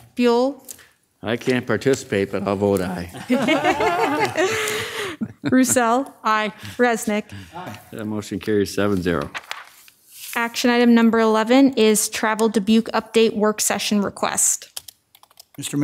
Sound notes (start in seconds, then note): 3.1 all laugh